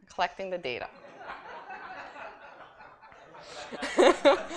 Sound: laughter

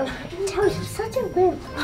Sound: giggles

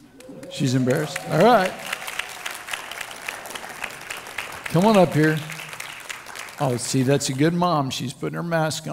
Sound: crowd Clapping

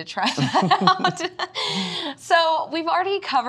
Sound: both laughing

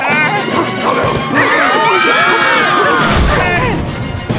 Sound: screaming

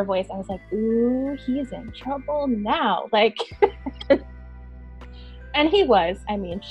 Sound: laughing

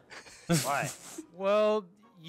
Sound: laughs

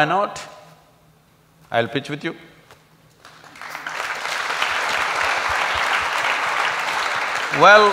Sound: applause

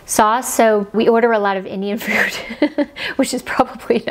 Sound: giggles

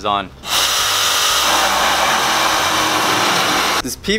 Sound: saw buzzing

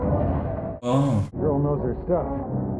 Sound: chewie growls

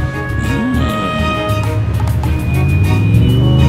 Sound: groans

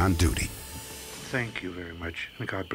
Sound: on phone

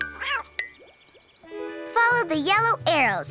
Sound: cat meows

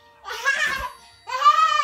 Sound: giggling

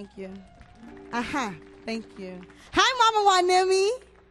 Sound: audience applauds

